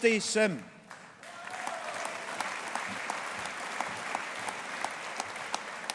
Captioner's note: audience applauding